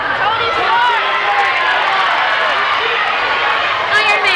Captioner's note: crowd shouting